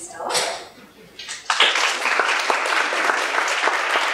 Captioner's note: applause